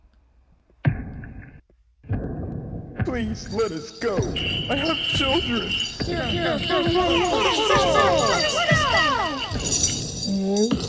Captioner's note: heavy Footsteps/Chains